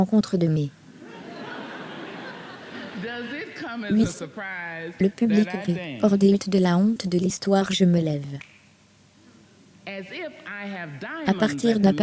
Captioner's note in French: le public rit; claque des doigts